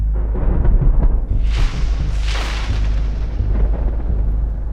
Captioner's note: thunder rumbling; suspenseful music